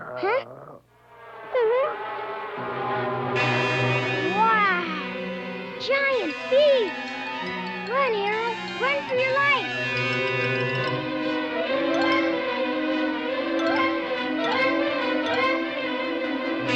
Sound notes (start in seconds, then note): 0.0 whimpers; 1.1 bees buzzing; 10.1 suspenseful orchestral music